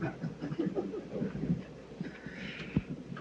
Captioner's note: laughter